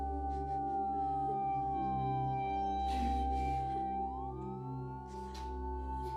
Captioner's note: ambulance sirens blaring in the distance